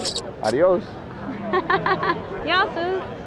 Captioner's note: laughing